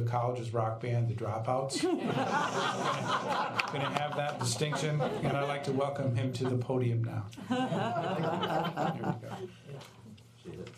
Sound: laughter

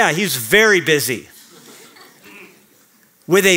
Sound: laughter

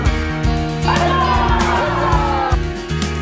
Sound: all exclaiming; laughs

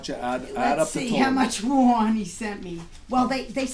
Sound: voiceover

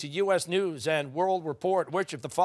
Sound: none

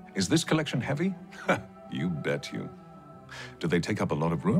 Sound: chuckles

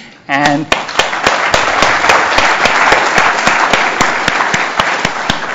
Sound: applause

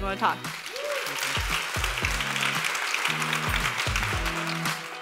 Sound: audience applauds; audience cheers; upbeat music

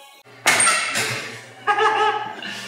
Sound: mixer clattering and squeaking; laughing

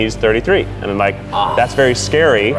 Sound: gasping

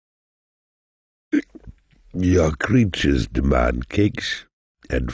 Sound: hick

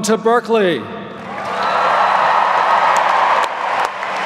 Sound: applause

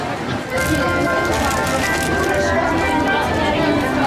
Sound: opening the potato chips

